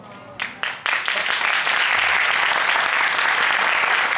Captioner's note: crowd applauding